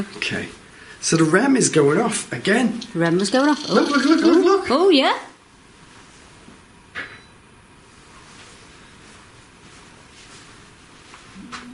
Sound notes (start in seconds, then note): 3.6 Rem chirps